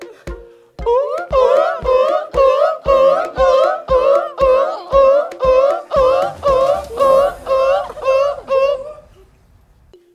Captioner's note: whooping